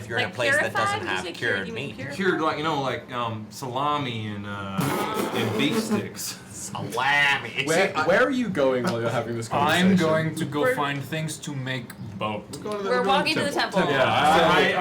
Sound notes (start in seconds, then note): 6.9 laughs